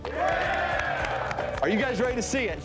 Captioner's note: screaming and cheering